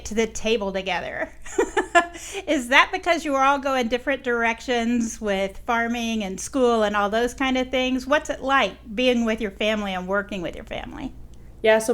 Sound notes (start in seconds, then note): 1.1 woman laughing